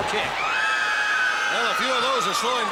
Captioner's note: fans scream